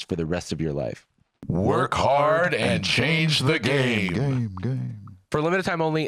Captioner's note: echoing